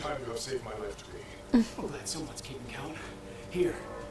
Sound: whimpers

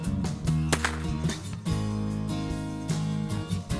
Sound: crack!

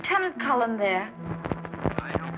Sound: on phone

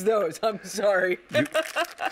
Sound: laughs

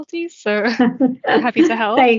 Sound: laughs

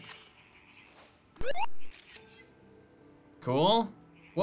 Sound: beeping

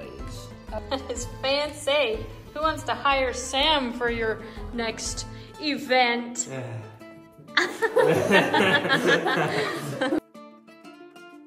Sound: laughter

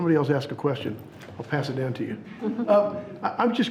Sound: members chuckling

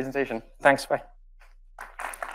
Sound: audience applauds

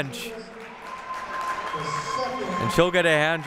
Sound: applauding

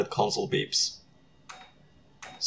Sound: computer beeps

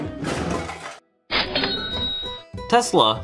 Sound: cha-ching

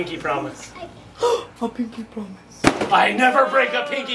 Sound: gasps

